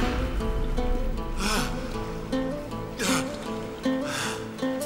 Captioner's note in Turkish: Derin nefesler alıyor